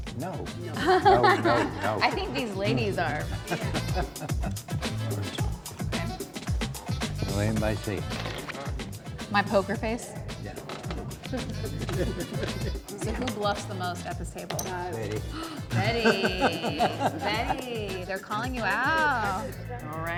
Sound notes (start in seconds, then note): 0.7 laughs; 4.7 bright music continues; 11.1 group laughs; 15.3 gasps; 15.3 group laughs